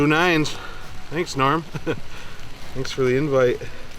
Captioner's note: laughs